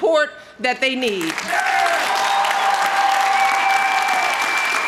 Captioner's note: crowd cheering